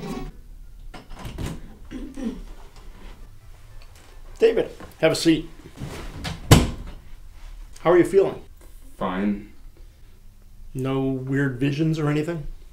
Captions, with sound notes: [door opens] David, have a seat. [door closes] How are you feeling? Fine. No weird visions or anything?